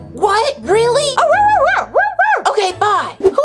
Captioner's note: high-pitched mumbling